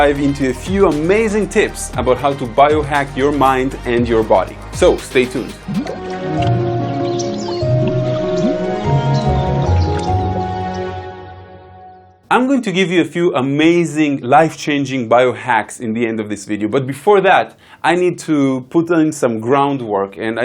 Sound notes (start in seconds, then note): 5.9 birds chirping; 6.5 peaceful music